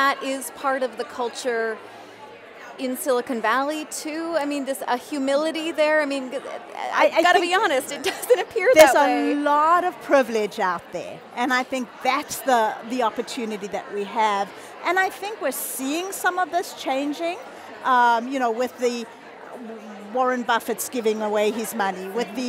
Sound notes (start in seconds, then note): 8.5 laughing